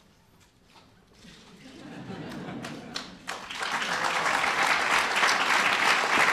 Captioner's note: applause